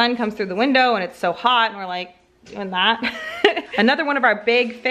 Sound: laughs

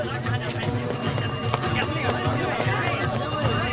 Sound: speaking foreign language; phone ringing

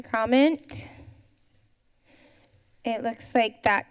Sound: silence

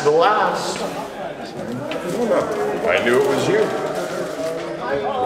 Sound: people chattering

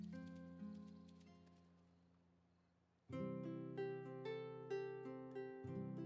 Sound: butterfly fluttering

